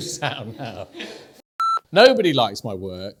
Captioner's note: beep